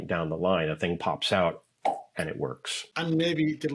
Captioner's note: pops cheek